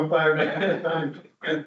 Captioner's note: laughing